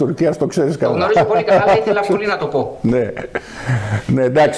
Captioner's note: laughter